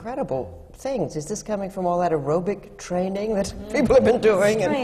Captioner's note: laughs